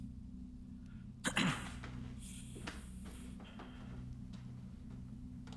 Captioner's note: throat clearing